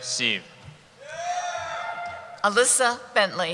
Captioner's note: cheering